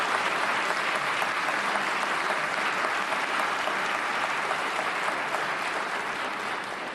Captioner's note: applause